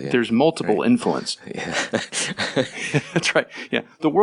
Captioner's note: laughing